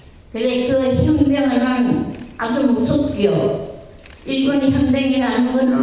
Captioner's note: speaking in foreign language